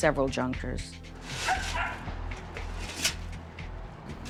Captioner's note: dog barking